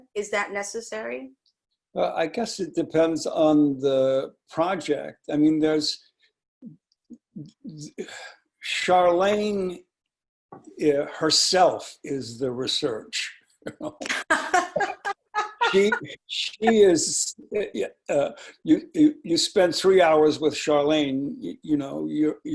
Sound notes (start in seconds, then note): 13.7 laughing